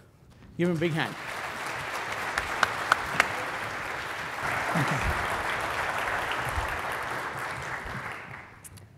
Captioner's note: applause